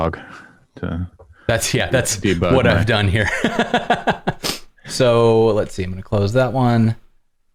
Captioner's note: laughter